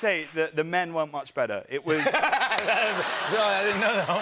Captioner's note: laughter